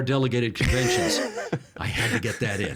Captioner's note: laughing